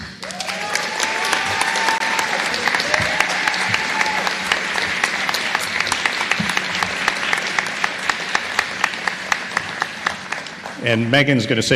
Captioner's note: applause